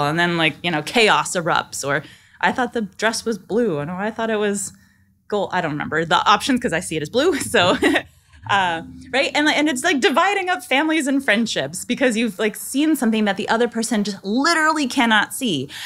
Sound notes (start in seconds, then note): 7.4 laughing